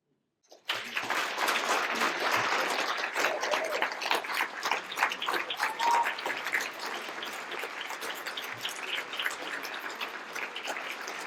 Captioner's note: applause